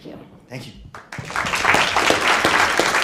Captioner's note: applause